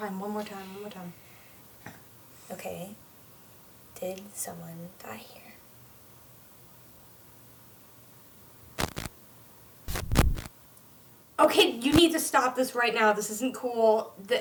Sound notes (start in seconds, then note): 8.7 Static